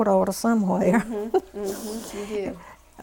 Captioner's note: laughter